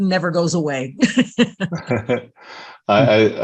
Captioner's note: all laughing